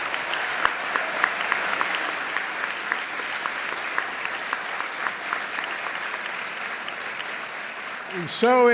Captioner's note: applause